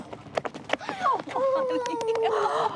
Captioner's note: both laughing